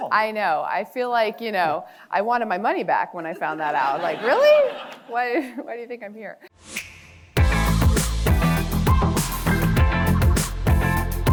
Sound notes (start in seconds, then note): 3.4 audience laughing; 7.3 upbeat music